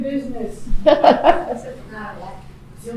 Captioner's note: laughing